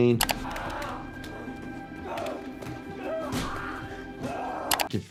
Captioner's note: person screaming